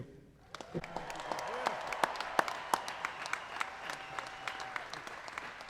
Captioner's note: applause